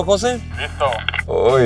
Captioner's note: on the radio